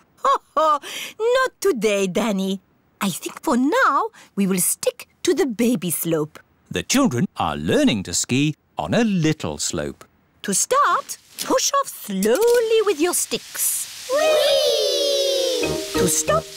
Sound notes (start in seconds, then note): 0.7 laughs